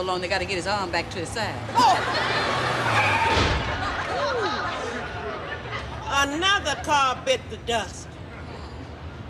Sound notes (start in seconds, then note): 2.7 car breaks screeching; 4.0 car tire pops